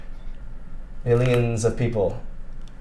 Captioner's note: broccoli crunches